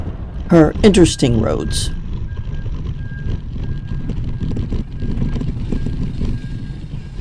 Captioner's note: bike wheels on road